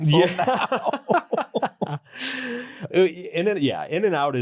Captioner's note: both laughing